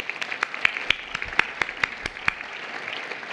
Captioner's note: applause